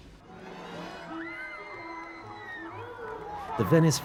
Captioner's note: shouting and cheering